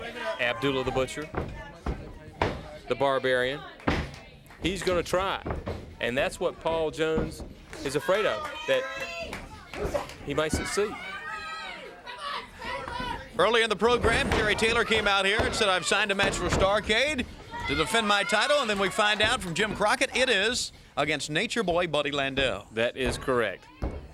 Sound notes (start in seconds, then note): 12.2 crowd chatter